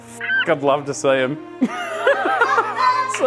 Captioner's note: laughing